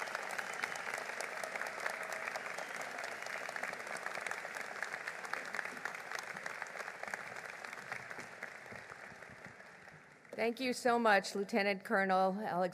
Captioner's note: applause